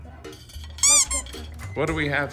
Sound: squeak

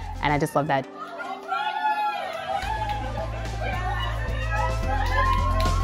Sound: cheering

